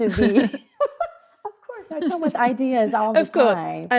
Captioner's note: laughs